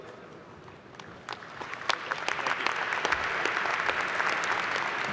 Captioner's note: applause